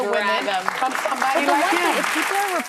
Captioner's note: audience applauding